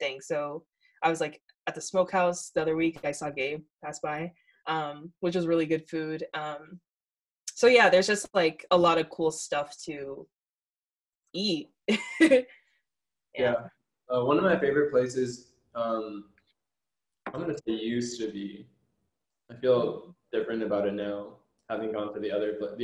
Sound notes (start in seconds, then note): 11.7 chuckles